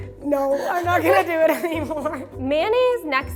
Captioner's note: both laugh